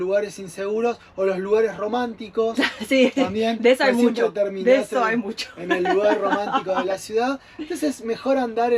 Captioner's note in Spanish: risas